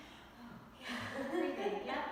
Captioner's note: chuckles